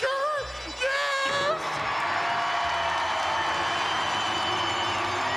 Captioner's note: crowd cheers